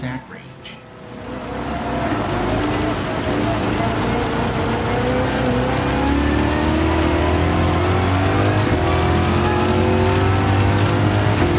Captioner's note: engines revving, cars noises, rain